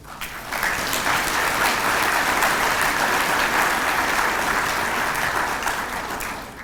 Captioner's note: applause